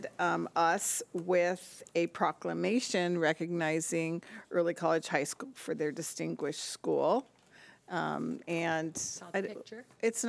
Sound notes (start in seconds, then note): none